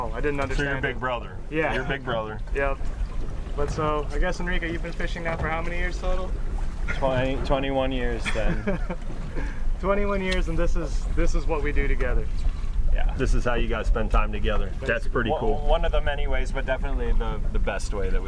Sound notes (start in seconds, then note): 8.2 laughing